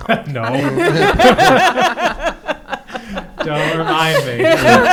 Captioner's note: laughter